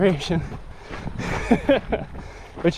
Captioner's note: laughs